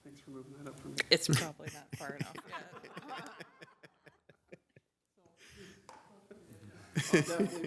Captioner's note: laughter